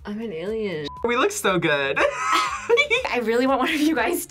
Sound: laughs

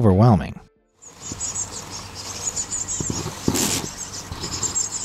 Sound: beetles droning

